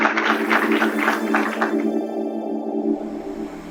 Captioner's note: applause